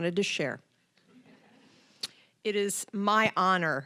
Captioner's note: audience chuckling